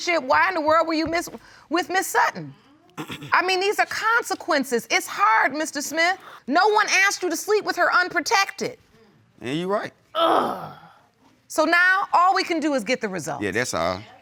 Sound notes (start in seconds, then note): 10.2 sighs